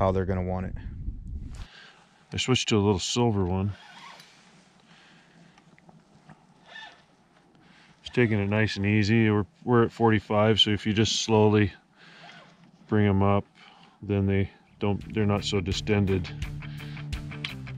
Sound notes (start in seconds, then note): 6.6 reel cranking